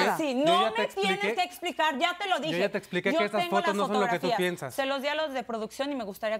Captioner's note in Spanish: Hablan al unísono